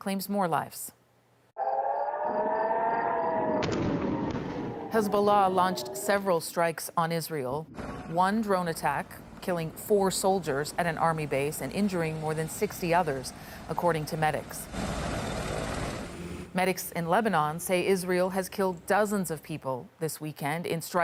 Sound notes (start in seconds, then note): 4.0 sirens; 4.2 bombing